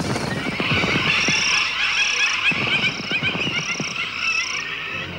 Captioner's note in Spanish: Birds cry and caw